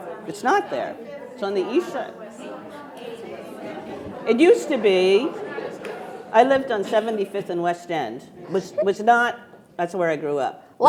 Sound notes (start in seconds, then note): 2.4 attendees chattering